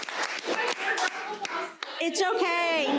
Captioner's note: faintly speaking; crowd laughing